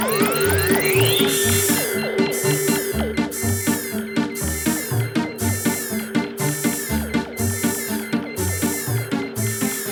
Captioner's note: rising overload drone; loud pulsing overload alarm